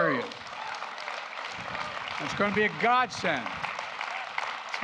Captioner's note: applause